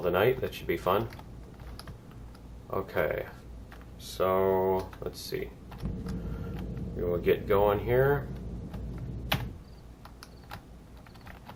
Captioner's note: turret turning